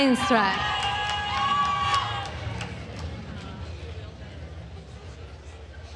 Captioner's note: attendees cheering and applauding